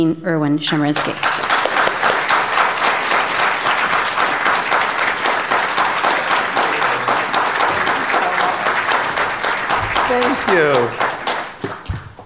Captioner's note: applause